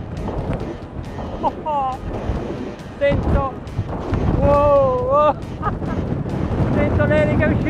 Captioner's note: laughing and speaking foreign language